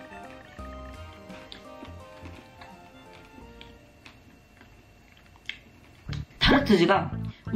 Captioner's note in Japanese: ベリーを噛む音